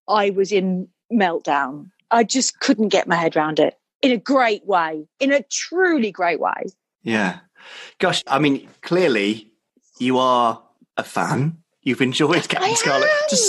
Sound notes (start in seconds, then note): 7.1 male Voice